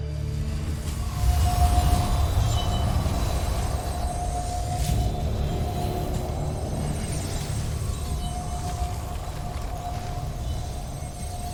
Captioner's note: sparkling whoosh, enchanting chimes